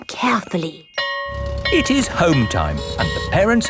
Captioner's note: school bell ringing